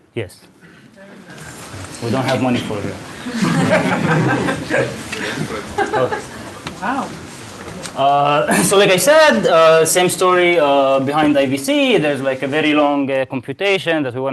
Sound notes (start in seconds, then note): 3.1 laughing